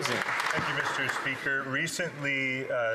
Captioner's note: some Applause